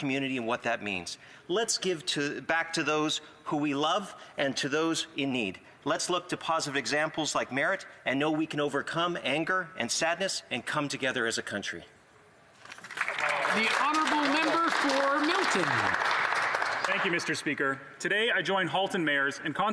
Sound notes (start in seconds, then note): 16.3 some Applause